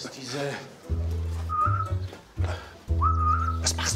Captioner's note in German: Pfeifen